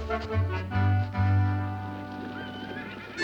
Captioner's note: horse neighing